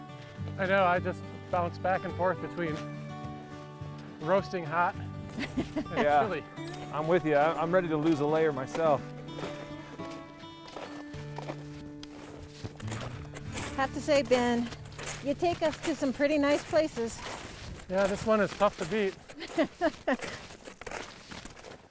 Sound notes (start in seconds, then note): 5.3 laughing; 19.3 laughing